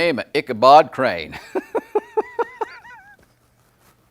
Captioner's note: laughing